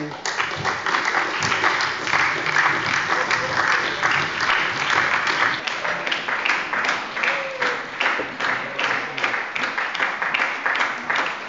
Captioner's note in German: Beifall bei der SPD